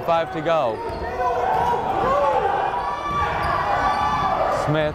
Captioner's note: yelling